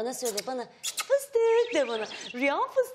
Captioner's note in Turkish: Islık sesi